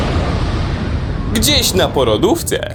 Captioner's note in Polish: boom!